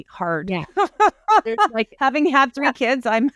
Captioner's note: laughing